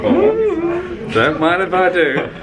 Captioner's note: hums excitedly